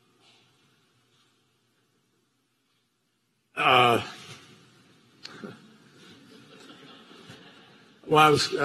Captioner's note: laughter